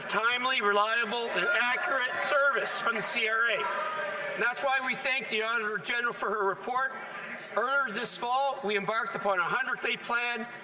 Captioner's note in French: voix de l'interprète